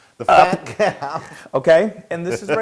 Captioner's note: laugh